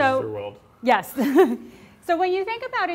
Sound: laughs

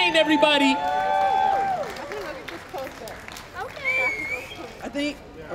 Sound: applause, cheering

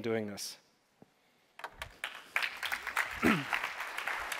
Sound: applause

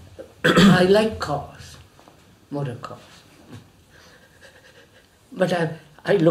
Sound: laughs

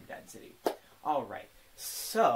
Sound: clap

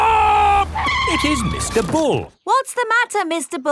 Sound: tires screeching

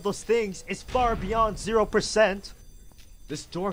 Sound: door slams closed

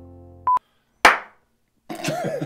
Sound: claps; laughing

